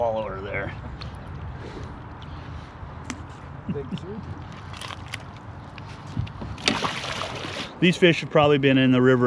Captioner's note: fish splashing